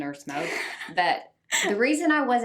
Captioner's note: laughs